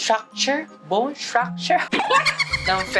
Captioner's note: chuckles